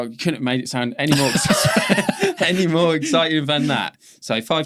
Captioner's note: both laughing